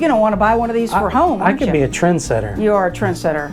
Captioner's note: laughs